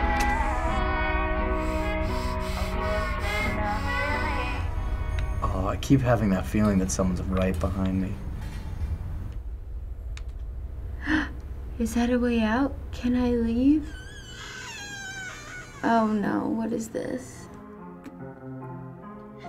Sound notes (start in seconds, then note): 0.2 jazz music; 1.4 sharp breathing; 8.1 rattling noises; 10.9 gasps; 13.8 door hinge creaks; 17.2 spooky music